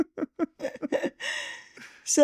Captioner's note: laughing